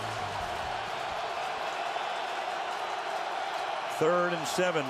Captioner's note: crowd cheering